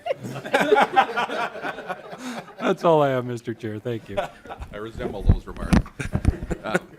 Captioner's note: laughter